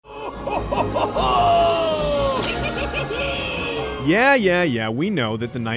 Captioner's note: laugh